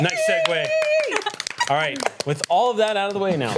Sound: applause

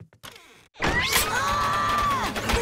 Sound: screaming

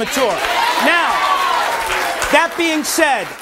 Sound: audience cheering

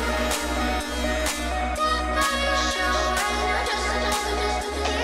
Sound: siren blaring

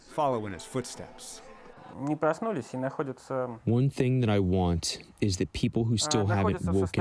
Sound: through translator

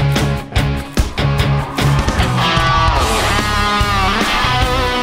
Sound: audience cheering

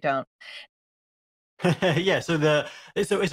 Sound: he laughs

